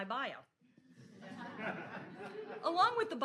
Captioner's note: audience chuckles